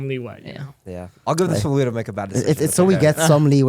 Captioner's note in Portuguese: risos